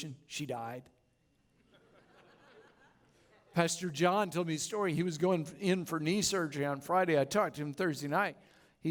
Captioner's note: laughter